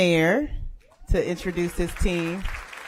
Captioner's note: applause